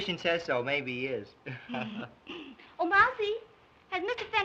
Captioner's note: laughs